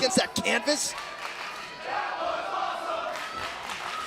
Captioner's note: crowd cheering